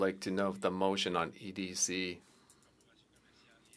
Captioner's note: speaking French